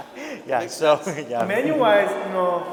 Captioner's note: laughing